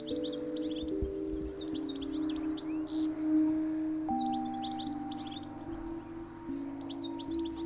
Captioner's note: birds chirping; soft music